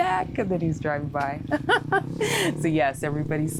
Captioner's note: laughs